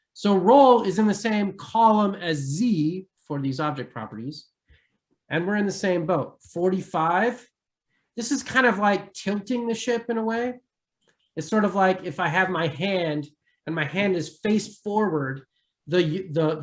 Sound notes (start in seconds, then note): none